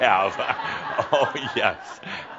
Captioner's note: laughter